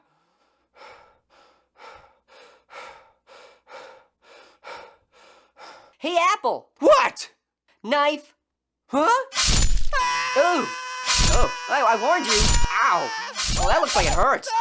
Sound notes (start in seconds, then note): 0.7 panting; 9.9 screaming